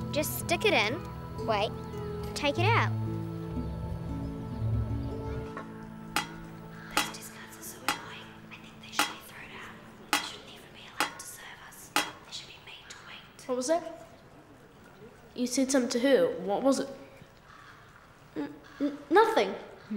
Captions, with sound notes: Just stick it in, wait, take it out. - (whispering) Those Discards are so high. I think they should be thrown out. They shouldn't even be allowed to serve us. They should be made to wait. - What was that? You said something to her, what was it. - Nothing.